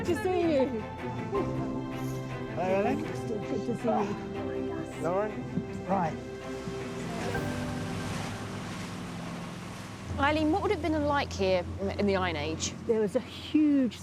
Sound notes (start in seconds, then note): 7.9 engine humming; 7.9 waves splashing